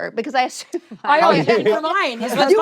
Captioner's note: laughter